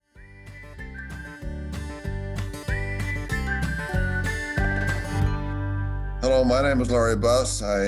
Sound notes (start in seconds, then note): 0.1 whistling; 0.2 lighthearted string music